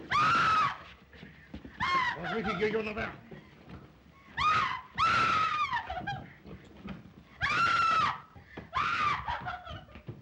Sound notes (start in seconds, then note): 0.1 Eve shrieks; 1.7 Eve cries out; 1.7 Zaroff speaks in Russian; 4.4 Eve shrieks; 8.7 Eve shrieks